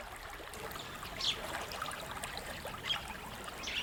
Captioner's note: birds chirping